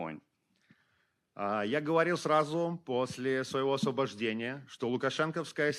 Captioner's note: speaking Belarusian